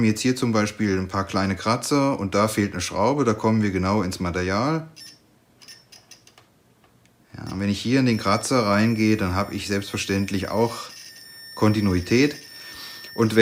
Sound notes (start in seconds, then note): 4.4 beeps